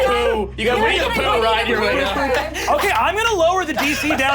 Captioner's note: excited yelling